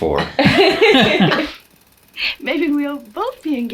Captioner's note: all laugh